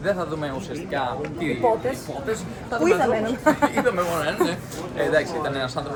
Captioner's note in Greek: γέλια